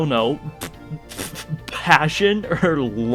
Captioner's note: pfff